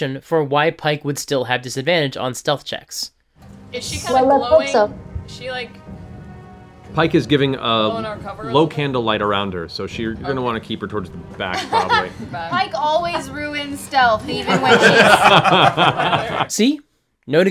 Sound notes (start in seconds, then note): 14.4 laughter